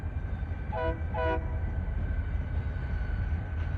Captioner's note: train horn